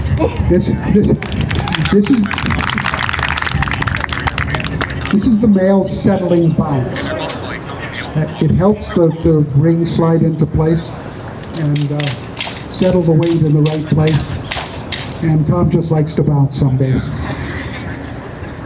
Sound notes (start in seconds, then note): 0.1 exclaims; 1.2 applause; 17.0 laughter